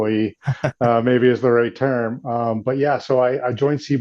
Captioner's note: laughs